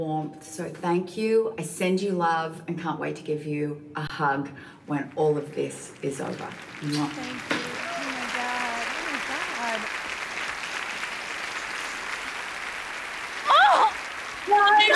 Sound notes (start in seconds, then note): 10.2 applause